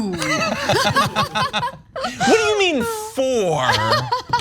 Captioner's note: laugh